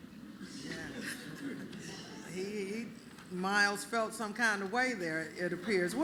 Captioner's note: laughter